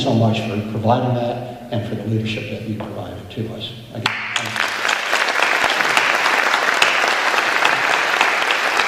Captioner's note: applause